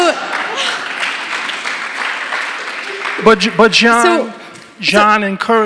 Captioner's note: audience applauding